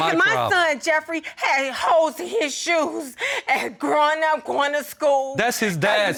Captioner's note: voice breaks